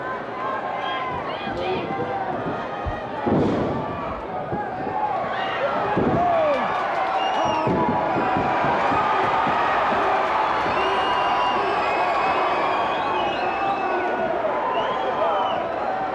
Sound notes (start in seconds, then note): 7.3 crowd cheers